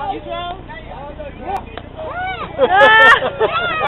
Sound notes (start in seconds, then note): 2.0 woman yells; 2.2 talking and laughter from wedding guests